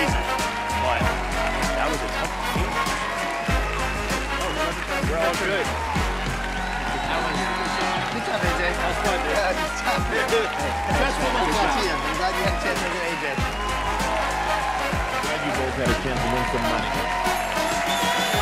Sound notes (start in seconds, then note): 7.0 cheers and applause continue